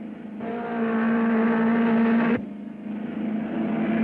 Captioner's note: car revving